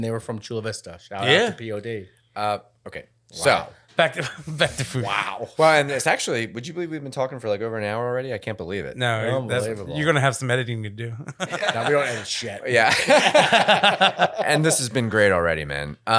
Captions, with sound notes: and they were from Chula Vista, shout out to POD. - Okay, so. - Back to food. - Wow. - Well, and it's actually, would you believe we've been talking for like over an hour already, I can't believe it. - No, you're gonna have some editing to do. (laughing) - Now we don't have any shit. (laughing) - And this has been great already, man.